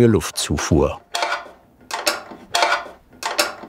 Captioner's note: quiet rattling